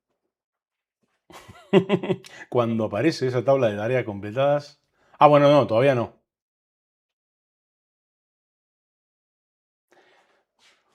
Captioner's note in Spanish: risas